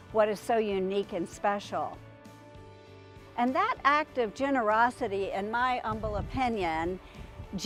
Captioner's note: none